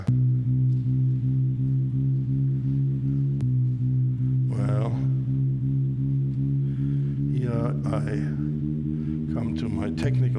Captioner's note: pulsing sound